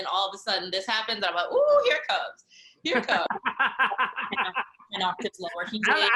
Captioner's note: laughing